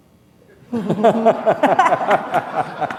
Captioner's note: laughter